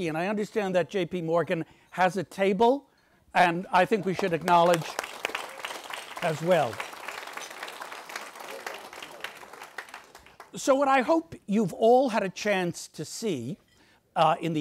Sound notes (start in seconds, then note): 6.2 audience applauds